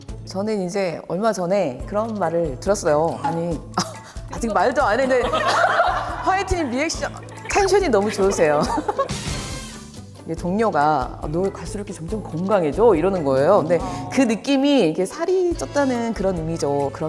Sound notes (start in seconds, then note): 3.9 gasp; 5.0 hahaha